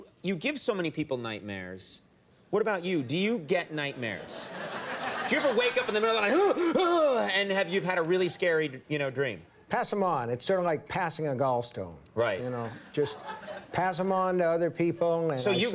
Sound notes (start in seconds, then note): 4.2 audience laughing; 6.2 Conan screaming; 12.5 audience laughing